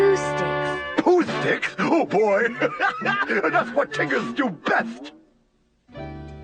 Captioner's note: laughs